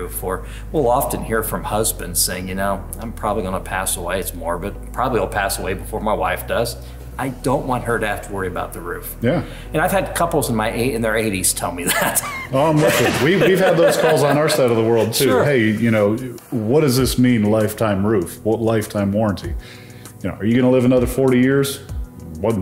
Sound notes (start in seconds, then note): 11.8 laughing